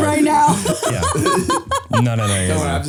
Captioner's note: laughing